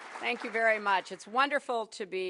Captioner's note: applause